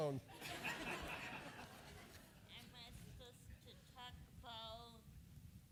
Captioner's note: laughter; laughter